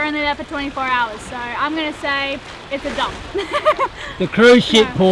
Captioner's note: laughing